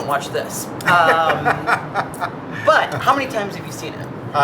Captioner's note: laughing